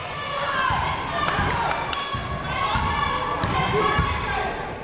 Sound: people shouting in the crowd

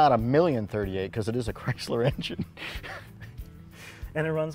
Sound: chuckling

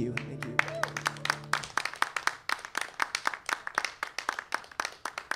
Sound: applause

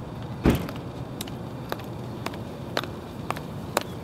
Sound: footsteps

